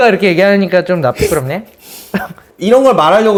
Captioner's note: sniff